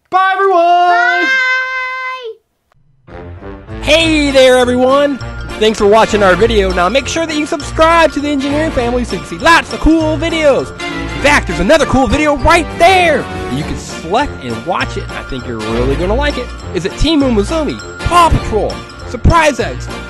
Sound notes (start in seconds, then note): 1.5 voiceover; 4.2 voiceover